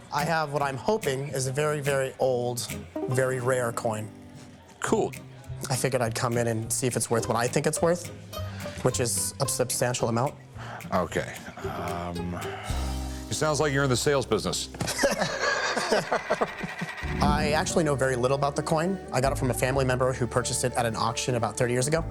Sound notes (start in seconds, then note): 14.8 both laugh